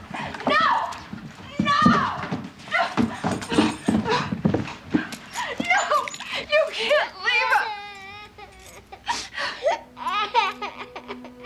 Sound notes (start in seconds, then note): 5.0 gasping; 6.6 baby crying; 9.1 patsy sobbing